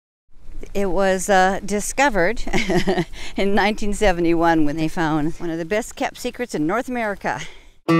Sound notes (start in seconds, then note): 2.4 chuckles